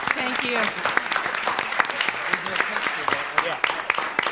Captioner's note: crowd applauds